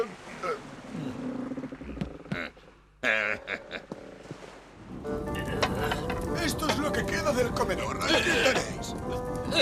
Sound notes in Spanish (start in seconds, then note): 0.0 carraspea; 3.0 ríe